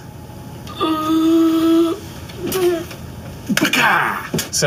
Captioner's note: makes grunting noises